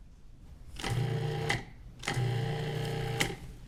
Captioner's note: blender whirring